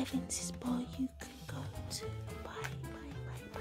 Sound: whispering

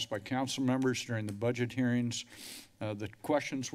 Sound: sniffles

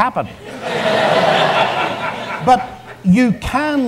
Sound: audience laughs

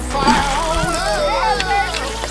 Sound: chime dings

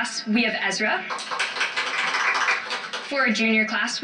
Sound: clapping

